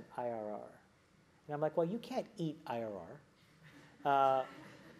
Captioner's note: laugh